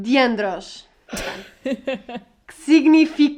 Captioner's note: laughs